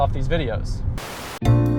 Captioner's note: white noise; elevator music